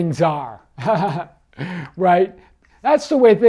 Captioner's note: chuckles